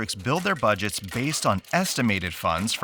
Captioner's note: crank rattling